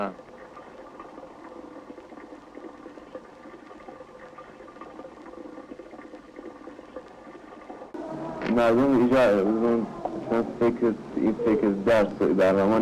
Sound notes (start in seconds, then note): 1.3 water splashing; 8.6 man speaking foreign language